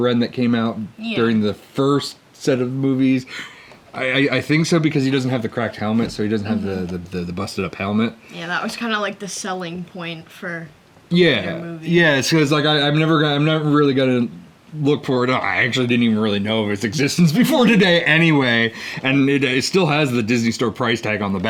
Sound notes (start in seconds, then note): none